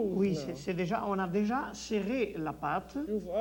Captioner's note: speaks French